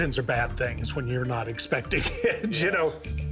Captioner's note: chuckling